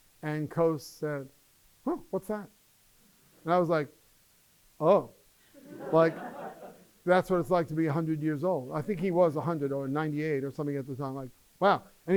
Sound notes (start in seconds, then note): 5.5 laughter